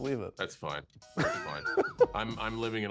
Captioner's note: laughs